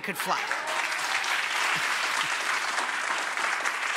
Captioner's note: audience applauds